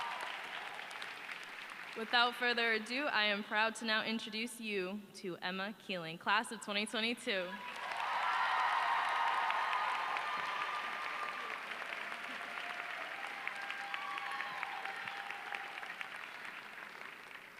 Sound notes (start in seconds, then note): 4.6 applause